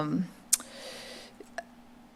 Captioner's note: smacks lips